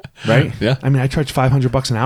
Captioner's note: laughs